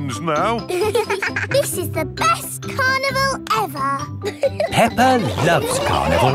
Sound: both giggling

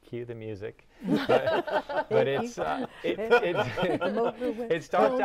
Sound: laughing

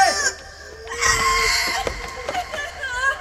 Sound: cries

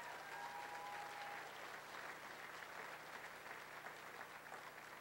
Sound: cheering, applause

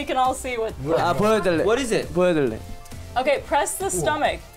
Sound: speaks in Korean

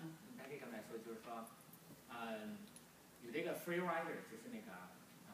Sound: speaking foreign language

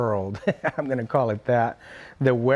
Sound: laughing

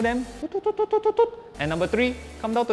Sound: poor email imitation sounds

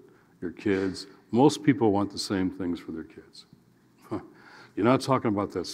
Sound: chuckles

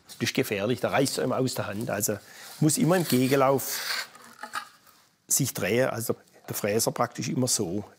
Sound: none

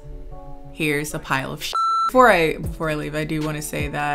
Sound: beep

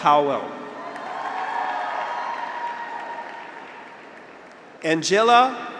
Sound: graduates cheer; audience applauds

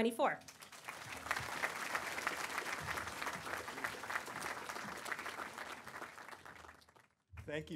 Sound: applause

